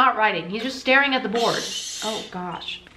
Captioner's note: shhhhhh